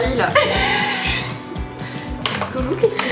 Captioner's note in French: rires